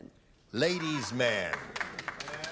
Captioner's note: clapping